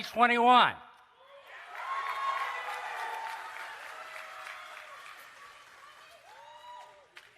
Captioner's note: cheering and Applause